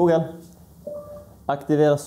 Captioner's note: confirmation sound